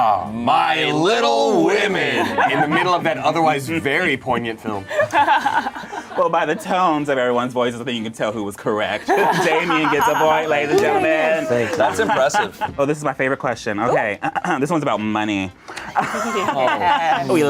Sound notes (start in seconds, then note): 5.3 laughs; 16.1 overlapping chattering